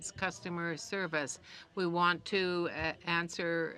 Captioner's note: speaking in french